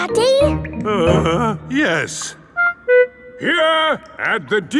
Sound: groans

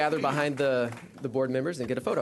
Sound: clapping

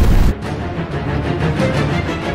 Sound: shooting; gun shooting

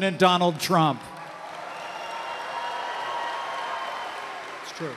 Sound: applause

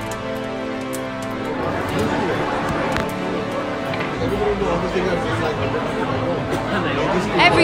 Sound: commotion

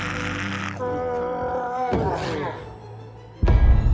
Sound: slow-motion screaming; instrumental music playing

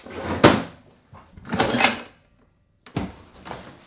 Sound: opens drawer; closes drawer

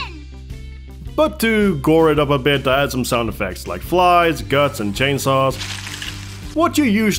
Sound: splattering

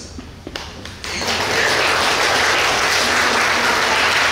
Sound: clapping

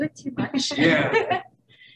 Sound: laughing

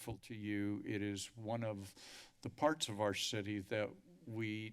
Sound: inhales

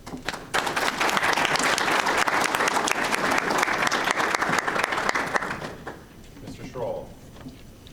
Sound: audience applauding

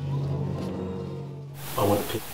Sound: audience groaning

